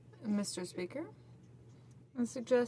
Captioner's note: speaking French